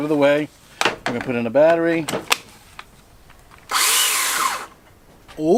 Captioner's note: electric engine comes to life